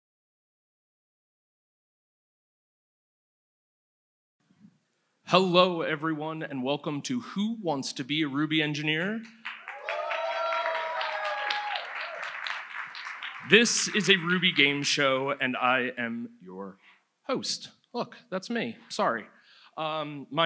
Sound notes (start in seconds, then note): 9.3 audience applauds